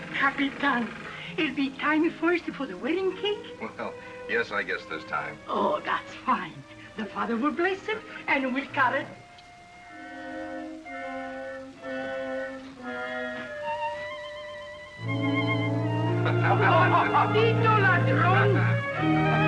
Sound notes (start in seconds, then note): 10.1 classical music; 16.2 laughter; 16.9 speaking spanish; 18.4 laughs